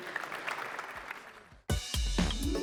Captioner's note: applause